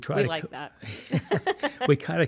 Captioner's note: laughs